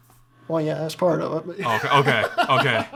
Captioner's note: laughs